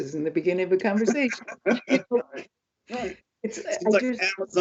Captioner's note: laughs